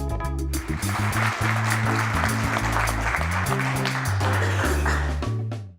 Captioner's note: audience applause